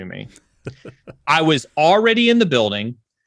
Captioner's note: laughs